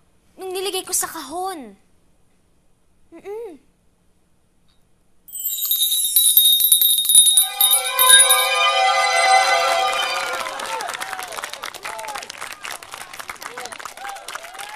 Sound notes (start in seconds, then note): 5.3 bell ringing; 9.6 applause